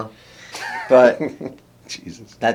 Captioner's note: laughs